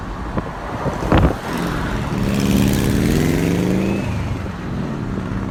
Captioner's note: car engine roaring